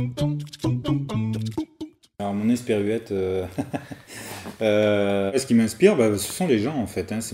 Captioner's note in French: rires